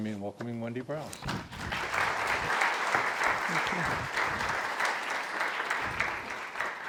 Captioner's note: crowd clapping